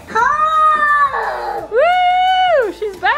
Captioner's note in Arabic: تئن